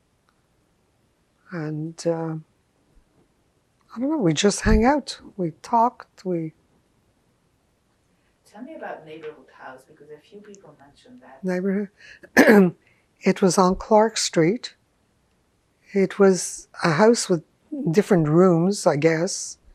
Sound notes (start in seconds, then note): 12.3 clears throat